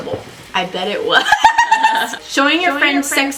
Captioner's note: both laugh; echoing